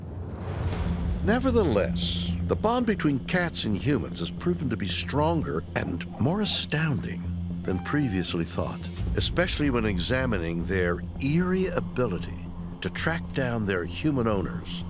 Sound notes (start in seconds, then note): 11.7 mews